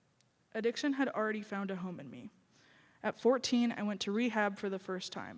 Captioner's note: none